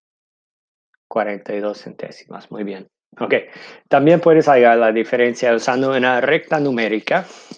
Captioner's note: speaking in foreign language